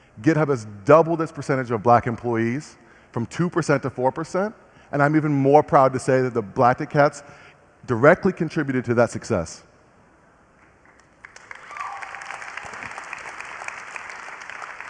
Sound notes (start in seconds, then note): 10.8 applause